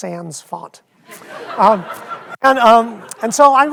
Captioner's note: audience laughs